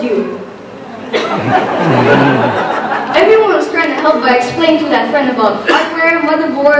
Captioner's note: laughter